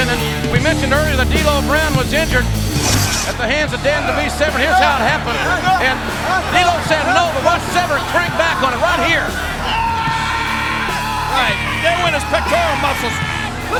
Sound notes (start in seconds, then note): 9.7 D'Lo screaming